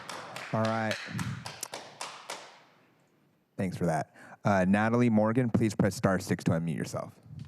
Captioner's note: applause